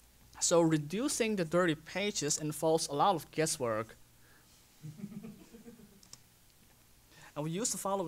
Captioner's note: laughter